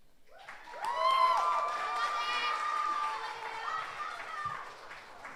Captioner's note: audience applauds